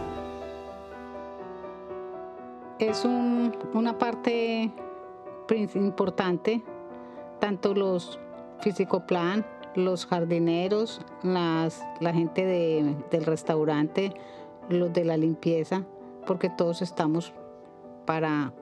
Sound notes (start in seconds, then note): 2.9 woman speaking in foreign language